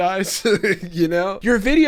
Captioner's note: laughs